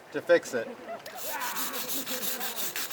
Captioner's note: scrubbing noise